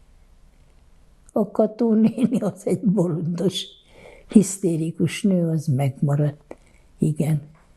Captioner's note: laughing